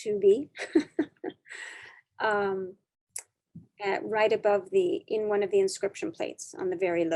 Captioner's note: chuckling